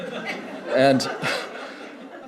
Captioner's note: laughter